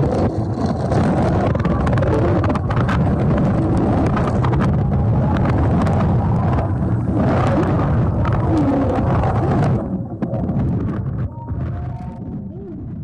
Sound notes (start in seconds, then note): 1.2 air whooshing; 1.2 water sloshing